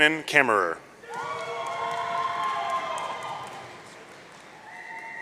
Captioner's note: audience cheering